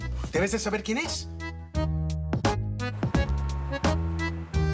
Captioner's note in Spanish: Ruido en la puerta